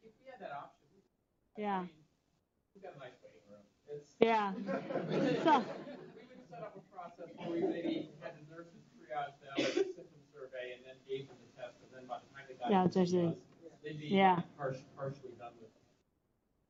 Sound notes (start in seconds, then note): 4.5 laughter